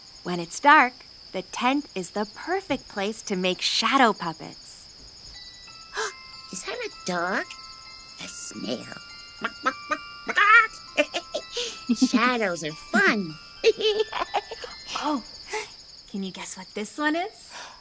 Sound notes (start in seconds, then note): 5.9 gasps; 9.4 clucking; 13.6 giggles; 13.6 laughs